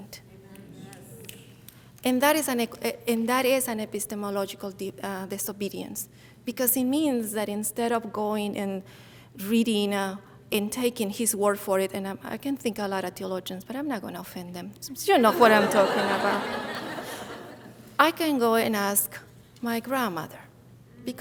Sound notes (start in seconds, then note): 15.2 audience laughing